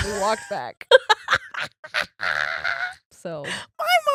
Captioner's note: laughing